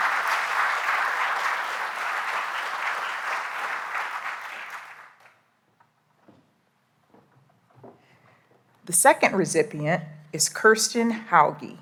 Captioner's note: applause